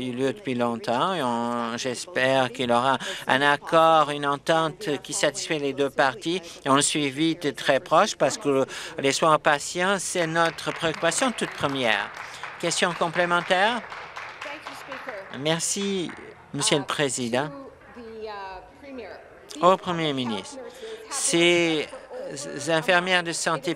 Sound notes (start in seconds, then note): 12.9 applause